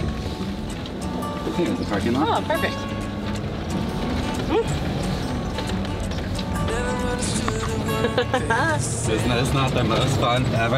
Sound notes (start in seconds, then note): 4.3 car engine rumbling; 7.9 laughing